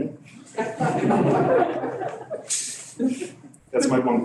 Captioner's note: laughter